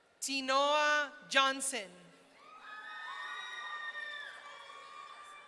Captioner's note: audience cheering